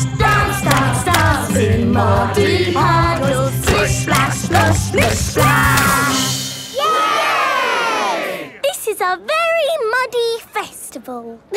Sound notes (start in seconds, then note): 6.7 all cheering